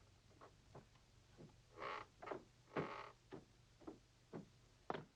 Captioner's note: stairs creaking